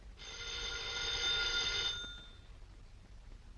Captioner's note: phone ringing